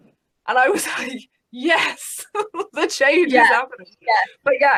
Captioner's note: laughs